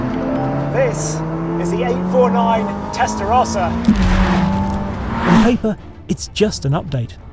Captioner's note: engine rumbles